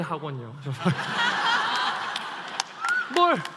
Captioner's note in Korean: 웃음